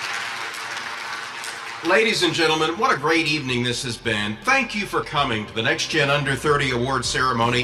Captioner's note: applause